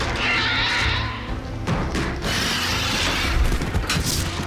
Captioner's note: crashing timbers; continued roars, screeches; crackling wood